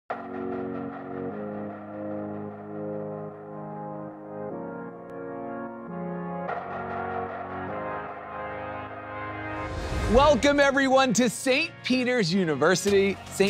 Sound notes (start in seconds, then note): 0.9 inspiring music; 9.6 graphics whoosh; 13.3 optimistic electronic music